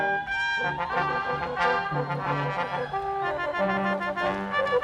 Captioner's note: audience applauding